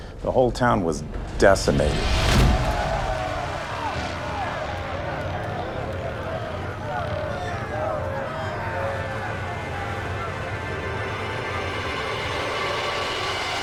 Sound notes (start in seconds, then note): 2.3 wailing